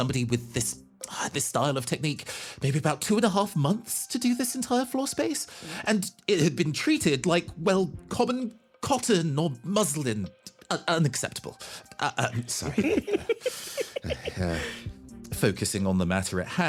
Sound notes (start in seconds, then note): 12.3 laughing